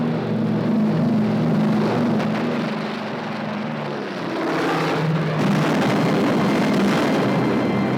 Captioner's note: plane engine